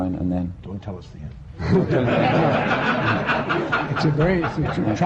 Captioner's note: laughter